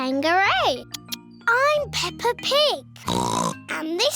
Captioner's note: oinks